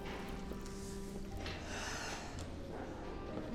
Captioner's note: sigh